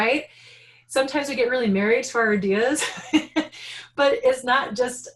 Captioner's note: laughing